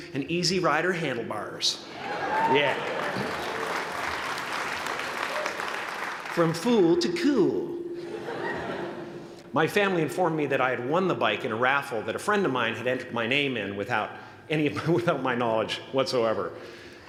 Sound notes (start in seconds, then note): 2.0 applause